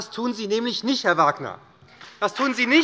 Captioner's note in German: Beifall bei der SPD und der FDP